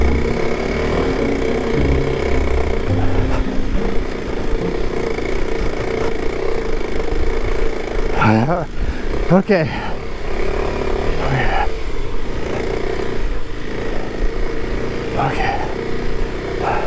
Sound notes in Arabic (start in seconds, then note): none